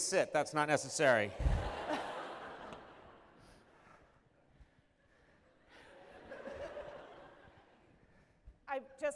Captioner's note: laughter